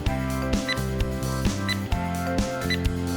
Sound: 🔥 Oven Sound 🔥

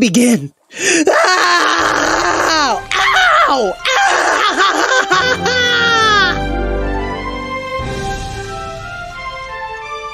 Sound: screams as he’s torn to pieces

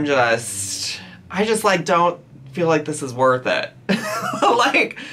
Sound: laughs

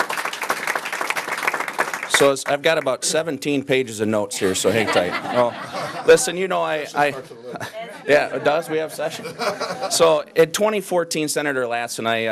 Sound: applause

